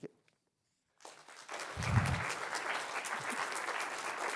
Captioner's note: applause